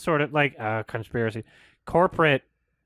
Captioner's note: mockingly